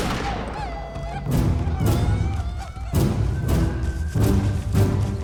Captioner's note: tribal yelling, gunshots